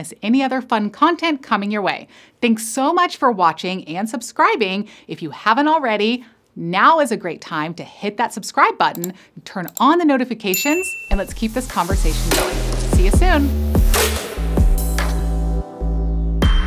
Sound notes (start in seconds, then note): 10.5 bell dings; 13.9 upbeat music